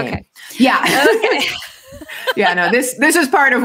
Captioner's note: laughs